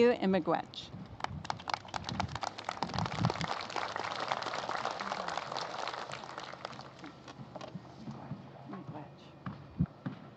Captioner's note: applause